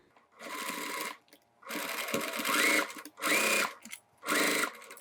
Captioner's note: machine whirring